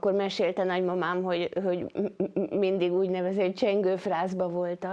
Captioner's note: speaking foreign language